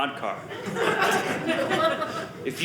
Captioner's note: audience laughing